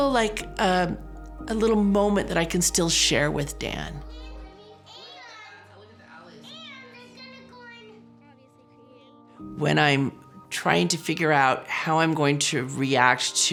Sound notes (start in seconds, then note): 4.1 children chattering